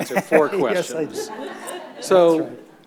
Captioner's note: audience laughs